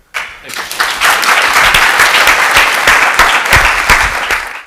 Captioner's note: applause